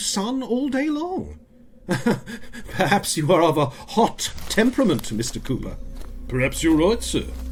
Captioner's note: laughs